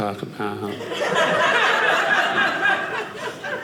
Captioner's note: audience laughing